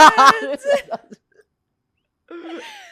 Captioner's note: laughs